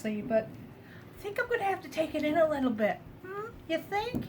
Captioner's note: sarcastically